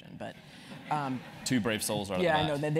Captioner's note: laugh